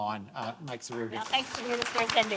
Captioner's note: audience applauding